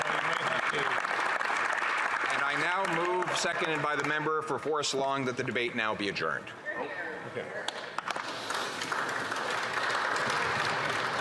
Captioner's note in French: applaudissements